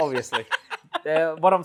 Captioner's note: continues laughing